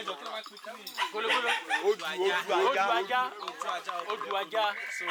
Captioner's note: speaking foreign language